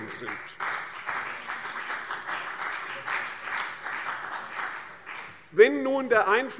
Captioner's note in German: Beifall CDU und BÜNDNIS 90/DIE GRÜNEN